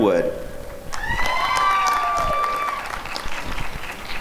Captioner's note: applause and cheering